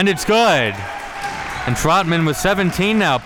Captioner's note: audience applauding and cheering